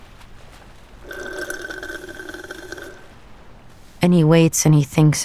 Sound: slurping

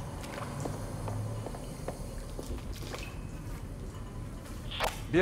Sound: footsteps

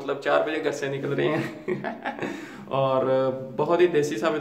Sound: laugh

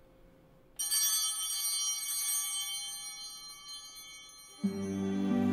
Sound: bell ringing

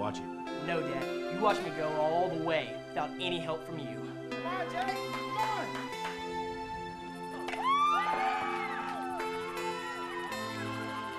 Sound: crowd cheering

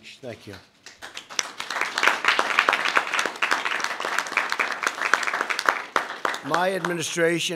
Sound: applause

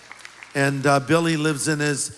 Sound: applause

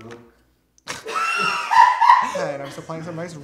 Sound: laughter

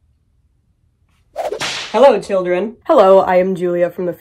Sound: whip crack

